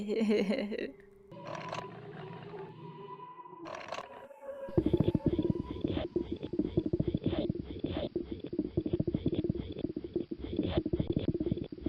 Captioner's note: assorted mechanical noises